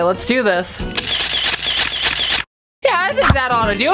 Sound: camera clicking

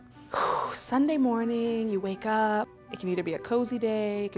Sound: sighs

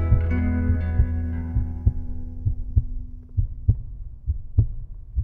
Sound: healthy heartbeat

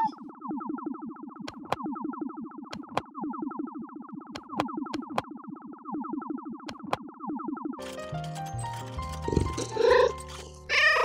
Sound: meow

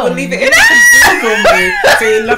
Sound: scream

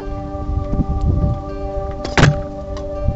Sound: ambient music; wind gust; ambient music; loud slamming noise; ambient music

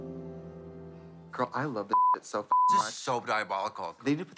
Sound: beep

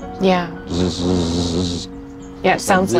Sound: buzzing

